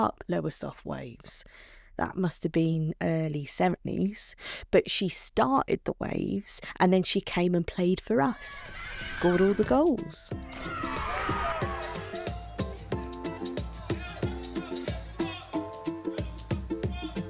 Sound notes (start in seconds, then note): 10.4 cheers from the crowd; 12.5 music & whistling